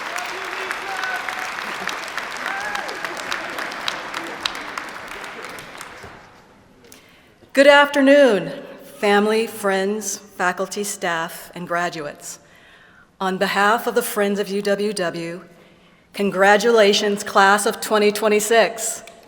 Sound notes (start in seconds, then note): 0.0 applause; 2.4 cheer